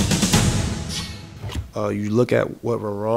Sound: sound effect

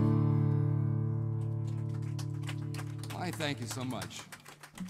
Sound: applause

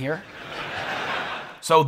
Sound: crowd laughing

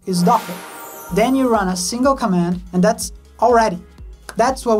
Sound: angelic whooshes

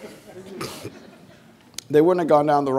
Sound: audience laughing

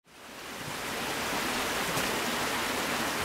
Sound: creek water

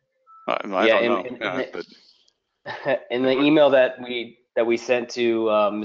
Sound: laugh

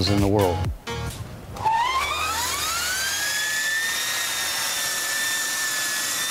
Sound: electric motor whine

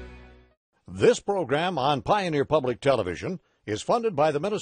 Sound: voiceover

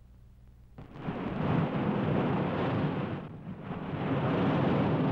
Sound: thunder rumbling

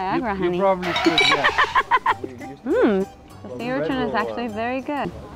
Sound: sound: Car tires skidding followed by laughing

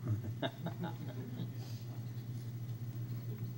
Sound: laughs

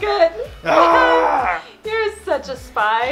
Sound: exclaims

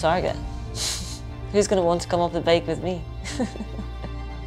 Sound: chuckles

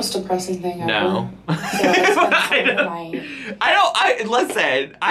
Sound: laughs

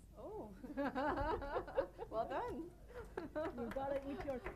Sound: laughing

